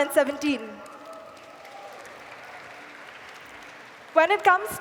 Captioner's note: applause